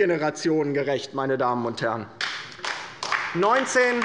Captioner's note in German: Beifall bei der LINKEN